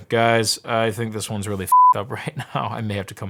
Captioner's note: beeping